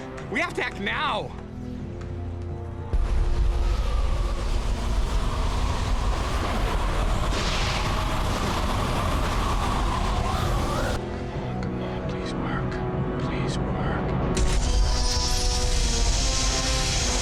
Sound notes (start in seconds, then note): 7.1 lightning storm; 14.1 intense music